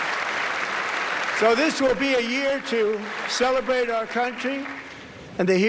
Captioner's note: applause